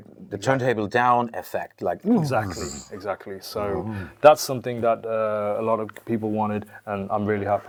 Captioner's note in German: albernes Geräusch